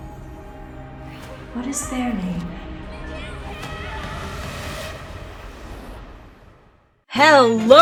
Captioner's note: Crying Child: Come back! Mikhail!